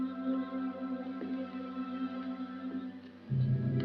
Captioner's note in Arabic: خطوات